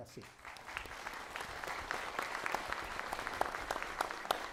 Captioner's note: applause